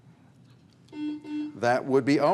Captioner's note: buzzer buzzes